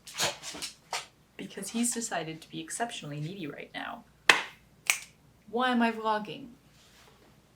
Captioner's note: puppy noises; clap snap